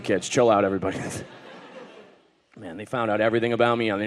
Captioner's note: audience laughing